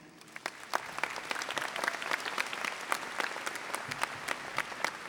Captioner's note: audience applauding